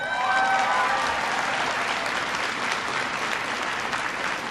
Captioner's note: applause